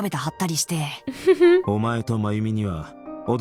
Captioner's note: chuckles